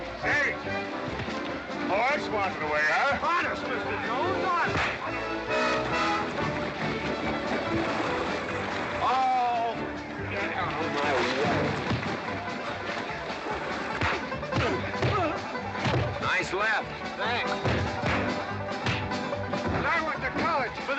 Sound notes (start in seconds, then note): 5.8 sounds of scuffling & fighting; 5.8 western fight music; 12.1 sounds of scuffling & fighting; 12.1 western fight music